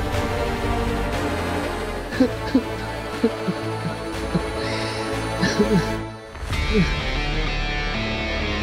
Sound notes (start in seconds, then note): 2.0 sobbing